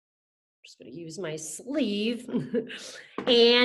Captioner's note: laughs